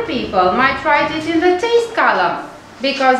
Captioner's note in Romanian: gust